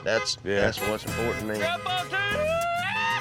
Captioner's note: horn beeping, yelling